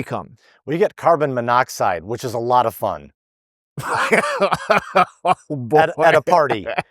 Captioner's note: laughing